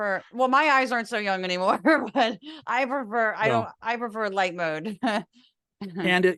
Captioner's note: laugh